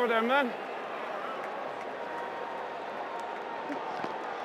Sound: crowd cheering

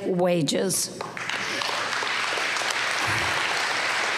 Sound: applause

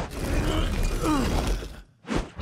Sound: grunts

